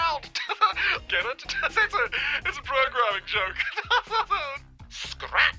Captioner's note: laughs